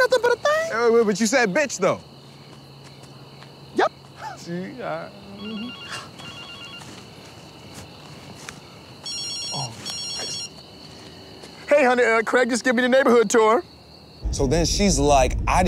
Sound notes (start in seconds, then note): 5.3 cell phone rings; 9.0 second cell phone rings